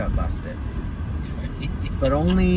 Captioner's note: giggles